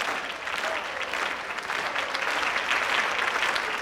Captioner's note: clapping rhythmically